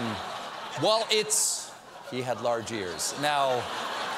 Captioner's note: laughter